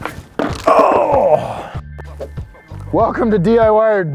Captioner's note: groans